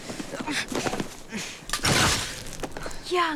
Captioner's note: whimpers